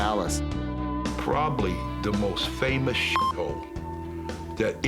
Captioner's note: beep